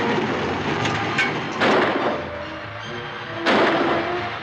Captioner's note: gun firing; suspenseful music